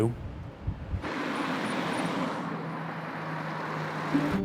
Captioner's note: traffic humming